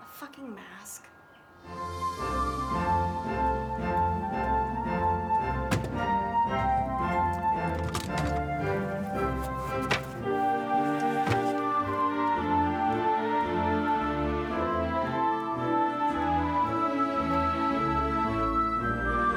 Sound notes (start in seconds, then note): 1.6 cheerful music; 5.3 items clatter; 7.9 cheerful music